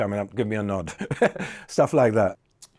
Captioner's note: chuckles